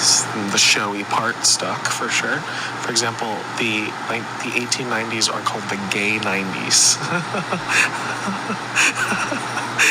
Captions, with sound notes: The showy part stuck for sure. For example, like the 1890s are called the gay '90s. (laughs)